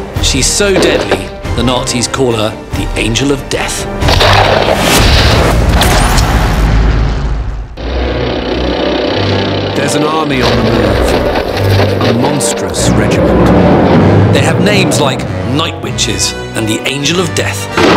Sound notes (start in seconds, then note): 0.0 dramatic music; 4.1 dramatic music; 4.1 gun roars; 6.1 electricity buzzing; 6.1 suspenseful music; 7.8 tank rumbling